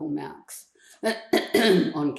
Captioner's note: clears throat